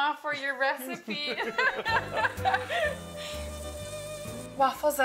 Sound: both laughing; sizzling from waffle iron

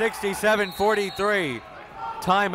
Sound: whistle

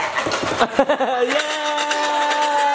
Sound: maraca shaking; laughing; maraca shaking

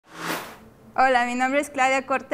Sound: sound Effects

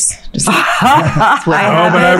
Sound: all laughing

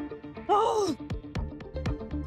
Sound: grunts

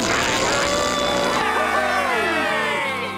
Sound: cheering

